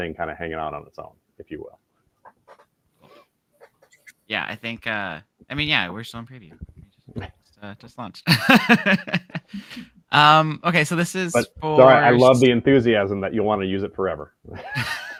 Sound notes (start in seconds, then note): 8.3 laughs